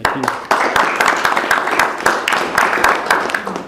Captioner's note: applause